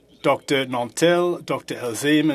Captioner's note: speaking FRENCH